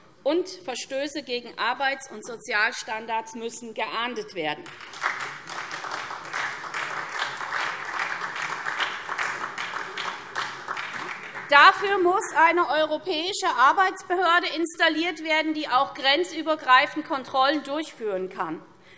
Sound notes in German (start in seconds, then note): 4.6 Beifall SPD